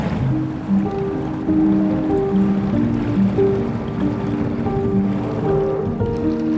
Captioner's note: gentle music; water lapping